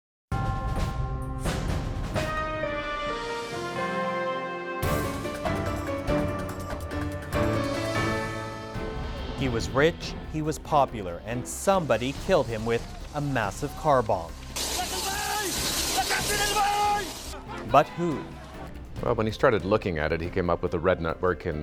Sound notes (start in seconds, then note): 11.5 angered shouting